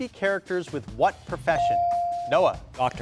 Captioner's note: bell dings